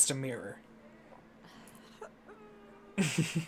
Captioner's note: making noises of discomfort